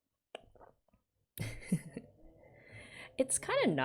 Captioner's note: laughs